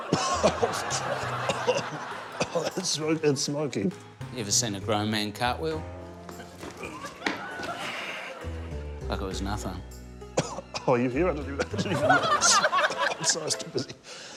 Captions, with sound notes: (COUGHS) (LAUGHTER) (COUGHS) Oh, that's smooth and smoky. You ever seen a grown man cartwheel? (LAUGHTER) Like it was nothing. (COUGHS) (LAUGHTER)